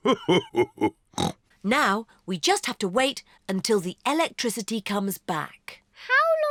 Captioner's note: laughs; snorts